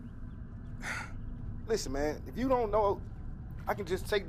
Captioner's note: sighs